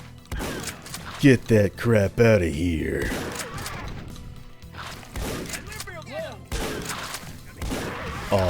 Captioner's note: duke nukem voice